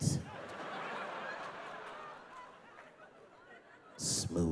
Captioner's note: audience laughing